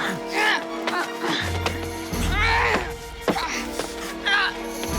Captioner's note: Moon groaning and grunting